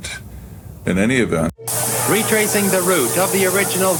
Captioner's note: men paddling and yelling